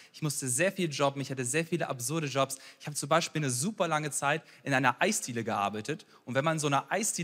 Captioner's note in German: none